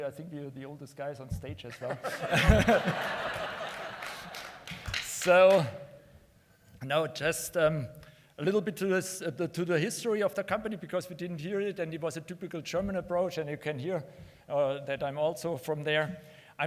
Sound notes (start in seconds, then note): 1.7 laughter